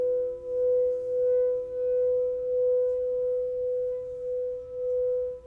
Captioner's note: bell tones resume